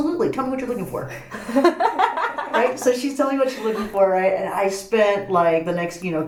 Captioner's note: laughs